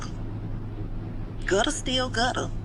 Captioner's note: neighborhood background noise